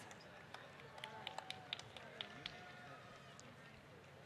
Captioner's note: applause